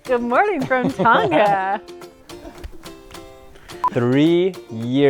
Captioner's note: laughter